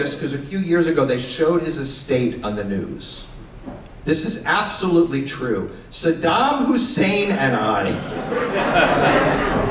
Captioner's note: laughter